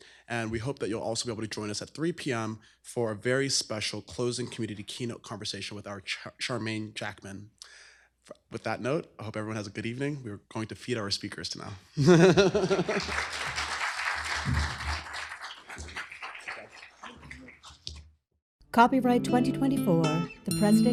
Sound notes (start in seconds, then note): 12.0 laughter; 12.4 applause